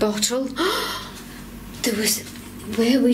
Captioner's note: gasping